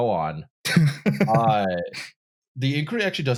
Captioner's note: laughs